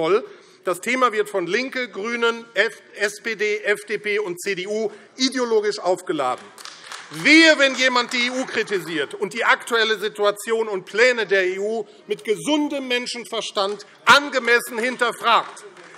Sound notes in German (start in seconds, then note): 6.2 Beifall AfD